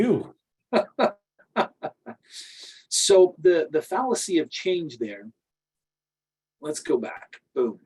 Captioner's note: laughs